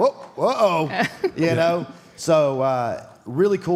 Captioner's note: Michelle laughs